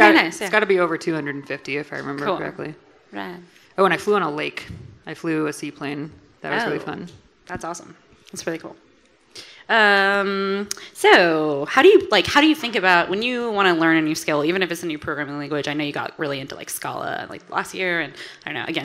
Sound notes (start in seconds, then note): none